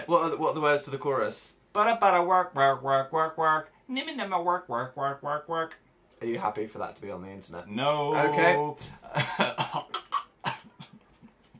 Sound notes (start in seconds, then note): 8.9 laughs; 9.5 chokes